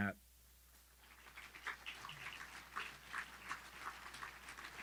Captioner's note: audience clapping